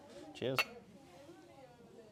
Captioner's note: glass clinking